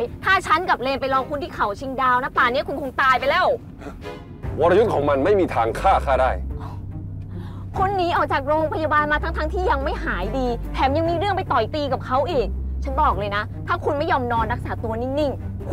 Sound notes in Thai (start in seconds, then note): none